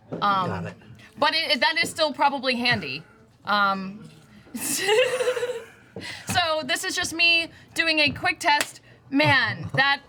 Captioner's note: laughs